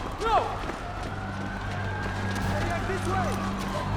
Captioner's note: sirens in the background